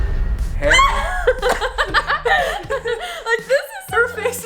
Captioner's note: trembling music; both laughing